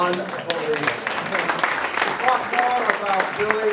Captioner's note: applause